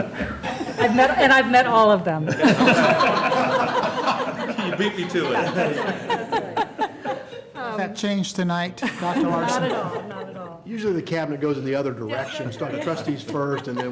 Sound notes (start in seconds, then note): 5.0 laughter